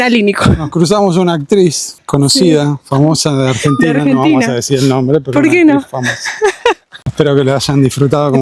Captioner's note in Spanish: risas